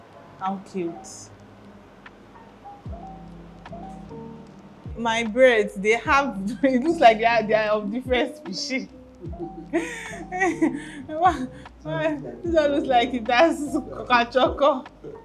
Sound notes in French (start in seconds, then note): 9.2 rires